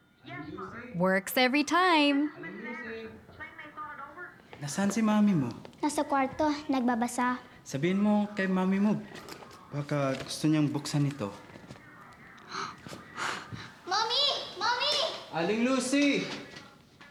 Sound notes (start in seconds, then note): 12.4 gasps